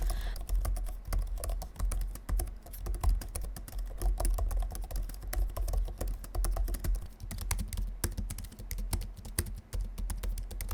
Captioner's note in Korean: 키보드 asmr